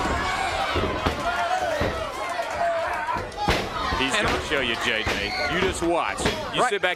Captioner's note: crowd cheering; crowd chatter